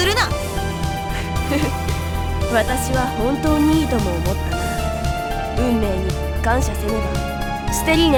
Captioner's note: chuckle